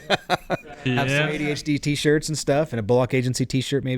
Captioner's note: laughing